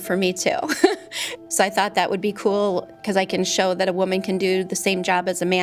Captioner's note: laugh